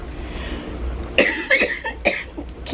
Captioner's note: coughing